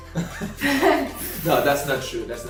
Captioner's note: laughs